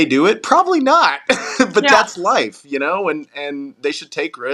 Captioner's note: laugh